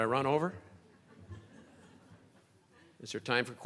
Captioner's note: crowd laughing